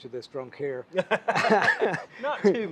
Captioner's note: laughing